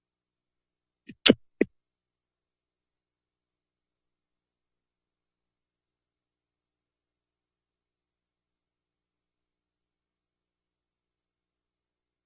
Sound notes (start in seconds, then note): 1.1 static noise; 3.9 silence